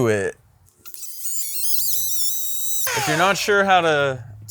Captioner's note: tape forwards